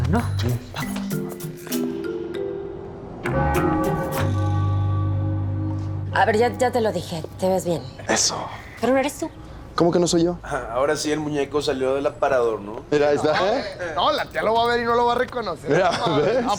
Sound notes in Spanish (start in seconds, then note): 3.3 Suenan campanadas